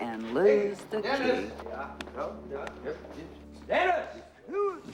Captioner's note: stammering